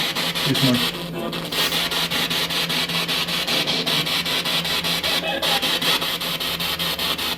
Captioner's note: radio noise from the spirit box